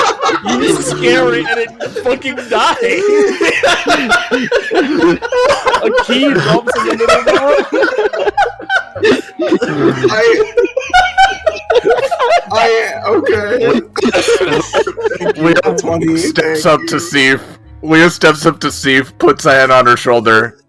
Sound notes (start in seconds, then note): 0.0 laughter; 3.6 laughter continues; 7.9 more laughter; 10.6 everyone losing it